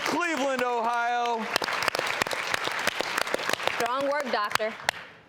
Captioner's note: audience applauding